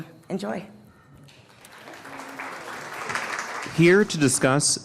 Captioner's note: audience clapping